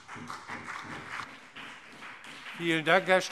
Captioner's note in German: Beifall CDU und BÜNDNIS 90/DIE GRÜNEN